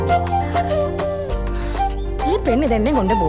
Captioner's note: sigh